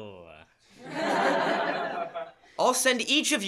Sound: laughter

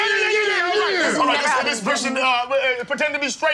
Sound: cheering

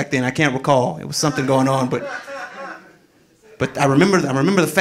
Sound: audience laughing

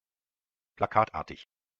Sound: fast Pronunciation

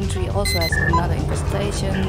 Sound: sensor beeps faster

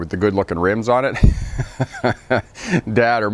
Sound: laughs

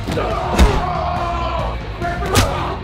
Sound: heavy metal music; crowd cheering; thud; smack

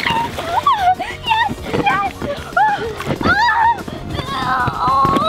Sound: high pitched screaming and the sounds of rubber

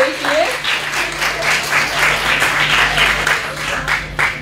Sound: applause

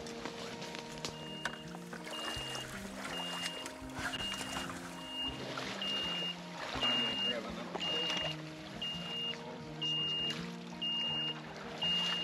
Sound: electroshocking backpack beeping

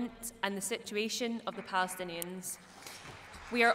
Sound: applause

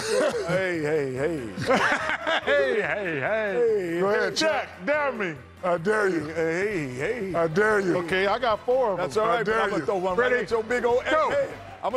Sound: laughter

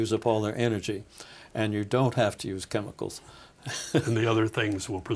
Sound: laughing

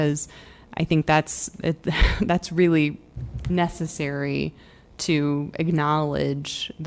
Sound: laughter

